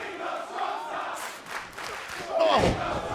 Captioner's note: fans chanting